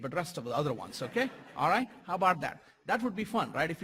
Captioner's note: laugh